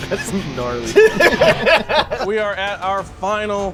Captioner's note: laughing